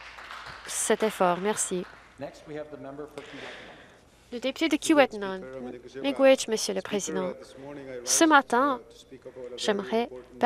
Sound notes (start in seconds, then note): 2.0 some Applause